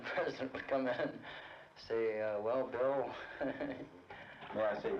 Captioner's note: laughs